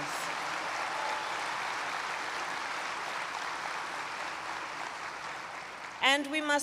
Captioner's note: applause